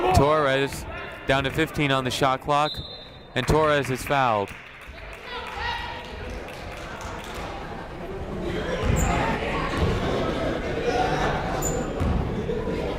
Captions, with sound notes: Torres, down to 15 on the shot clock and Torres is fouled. (crowd murmuring)